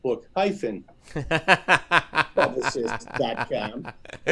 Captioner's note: laughing